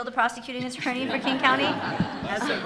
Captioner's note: attendees laughing